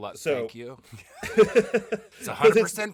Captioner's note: laughing